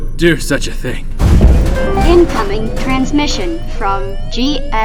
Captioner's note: Loud boom as the Candela is struck